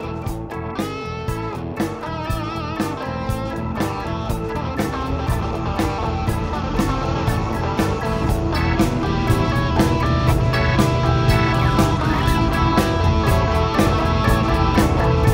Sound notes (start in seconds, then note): 0.1 upbeat instrumental music continues; 8.2 truck engine revving